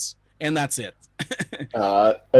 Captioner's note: laughing